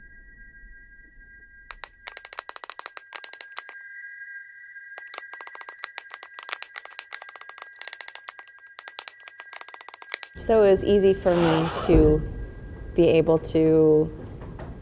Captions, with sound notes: (Text typing sounds) So it was easy for me to be able to